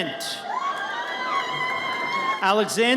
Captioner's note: audience cheers